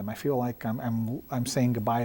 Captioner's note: none